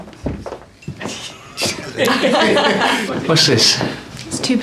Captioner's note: group laughing